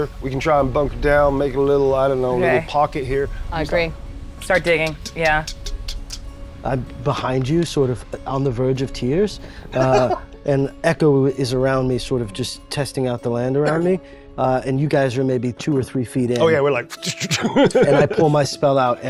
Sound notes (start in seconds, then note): 9.7 laughing; 16.9 laughs